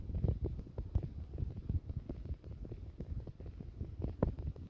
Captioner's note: 𝗥𝘂𝗺𝗯𝗹𝗲!!